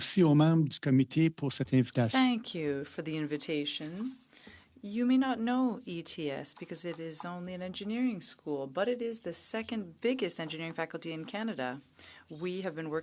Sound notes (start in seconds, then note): 6.4 speaking French